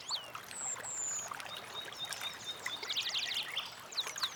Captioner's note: birds singing